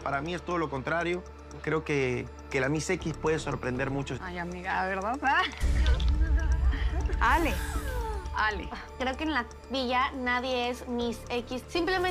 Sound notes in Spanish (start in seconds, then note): 5.3 ríe